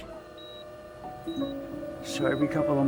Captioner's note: machine buzzing